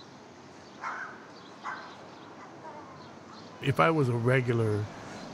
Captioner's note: distant dog barks